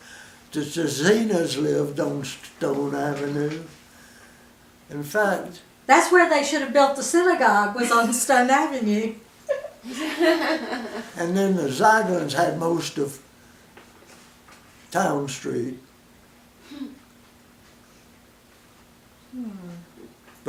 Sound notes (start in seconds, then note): 9.4 laughter; 13.4 silence; 16.5 silence